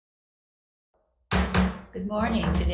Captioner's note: gavel thumping